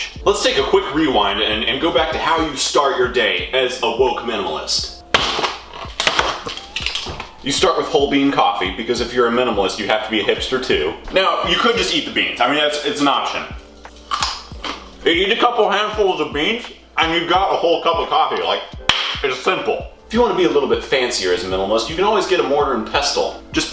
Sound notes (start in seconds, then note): 13.6 cronch